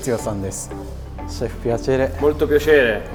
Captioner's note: Italian